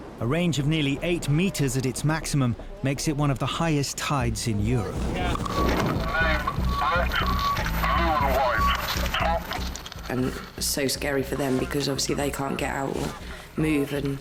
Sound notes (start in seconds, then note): 7.9 radio